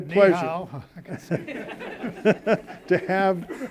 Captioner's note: speaks in foreign language